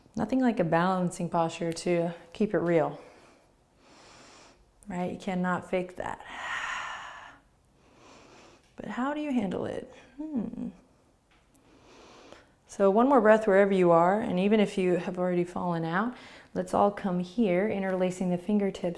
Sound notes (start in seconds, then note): 6.2 exhaling and inhaling; 11.5 inhaling